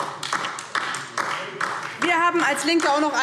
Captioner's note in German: Beifall DIE LINKE